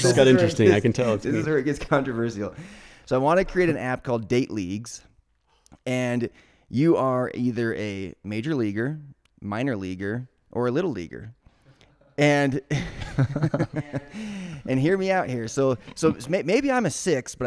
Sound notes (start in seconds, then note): 12.7 laughing